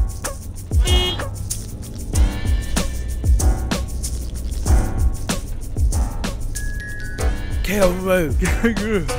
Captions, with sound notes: [Car horn] Kangaroo. Kangaroo